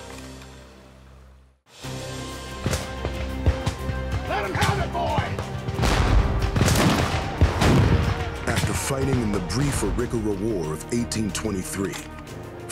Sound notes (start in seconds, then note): 2.4 gunfire; 5.7 gunfire, cannon